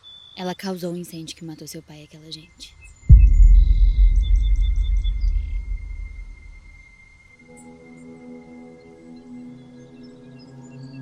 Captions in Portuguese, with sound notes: Ela causou o incêndio que matou seu pai e aquela gente. [impacto] [trilha tensa]